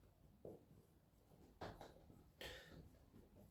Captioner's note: breathes in